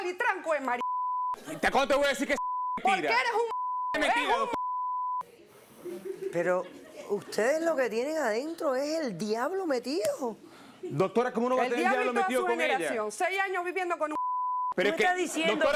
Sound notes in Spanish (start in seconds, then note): 5.8 Risas; 7.7 Bip; 14.1 Bip